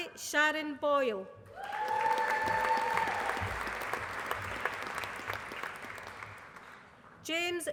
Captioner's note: applause